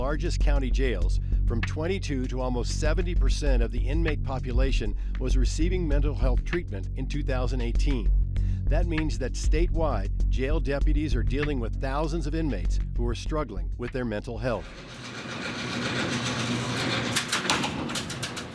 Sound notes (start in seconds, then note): 14.6 machine humming